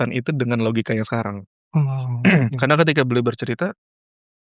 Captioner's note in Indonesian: berdehem